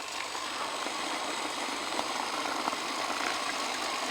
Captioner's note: tires spinning